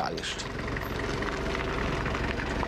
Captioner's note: engine noise